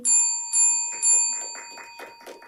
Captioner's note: bell dings; audience applauds